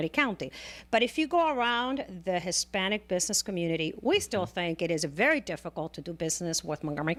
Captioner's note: Hablando ingl\s